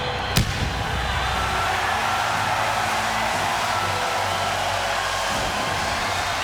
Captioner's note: audience cheers; pyro bangs